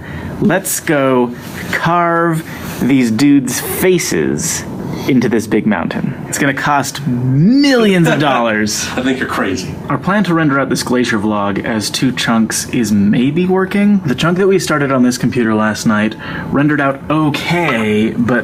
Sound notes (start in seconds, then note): 8.7 laughs